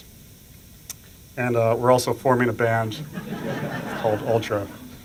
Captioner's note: laughter